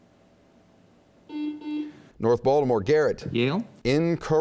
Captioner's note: buzzing